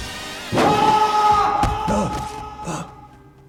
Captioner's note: suspenseful music; loud shouting; Wilbert gasping